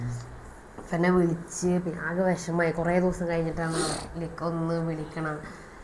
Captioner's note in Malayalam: ചീറ്റുന്നു